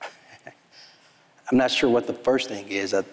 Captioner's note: chuckles